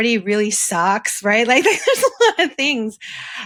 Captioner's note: laughs